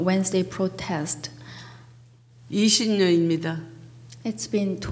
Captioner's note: speaking foreign language